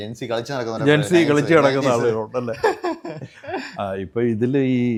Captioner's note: laughter